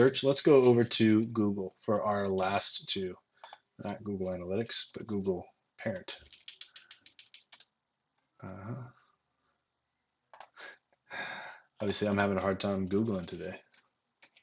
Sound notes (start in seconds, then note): 5.8 tapping keyboard; 11.1 sighing